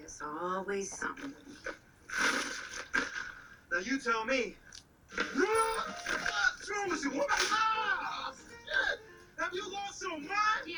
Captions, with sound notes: - There's always somethin'! (curtain rustling) - Now you tell me! (man screaming) What's wrong with you, woman! Ah! Shit! Have you lost your mind!